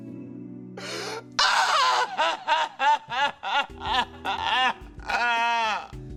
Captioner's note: crying; shouts